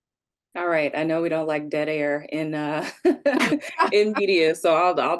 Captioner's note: chuckles